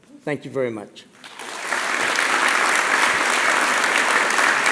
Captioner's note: applause